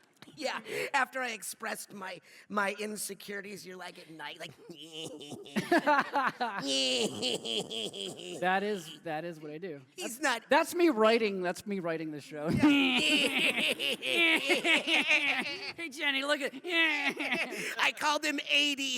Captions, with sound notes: Yeah. After I expressed my insecurities, you’re like, at night... [laughing to himself] That is what I do. That’s me writing. That’s my writing the show. [laughing to himself] Hey Jenny, look-it! [laughing to himself] I called him 80!